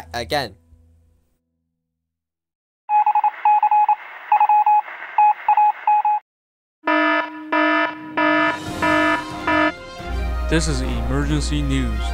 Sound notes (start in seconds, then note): 2.6 morse code; 6.8 alarm